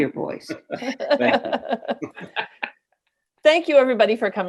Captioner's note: everyone laughs